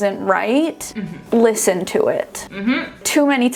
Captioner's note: humming affirmatively